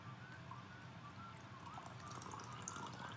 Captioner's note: slipped in some watering pouring ASMR